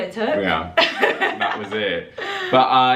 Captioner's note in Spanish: risas